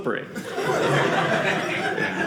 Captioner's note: audience laughing